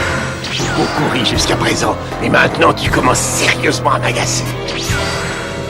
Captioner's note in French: Voix de Vegeta